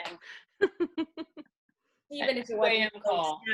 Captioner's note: laughing